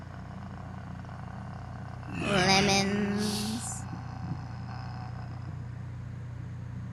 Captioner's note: demon voice